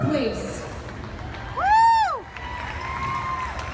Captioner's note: crowd cheers